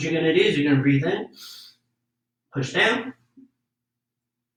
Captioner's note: inhales deeply